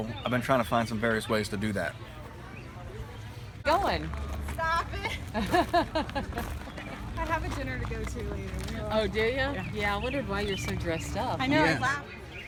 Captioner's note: laughing